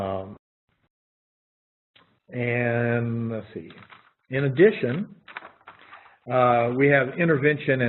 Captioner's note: pause